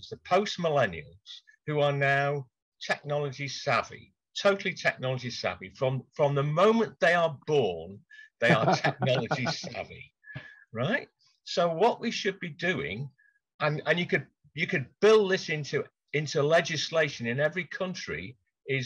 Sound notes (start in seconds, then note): 8.4 laughs